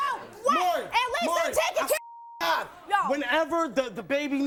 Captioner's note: beep